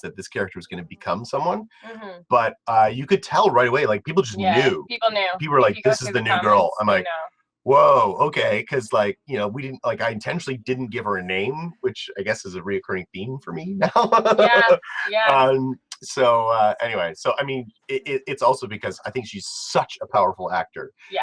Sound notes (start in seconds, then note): 14.6 laugh